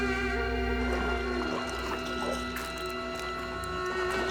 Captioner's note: water lapping